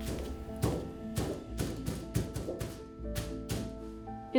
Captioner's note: canvas thuds